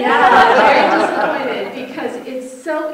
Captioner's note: audience laughter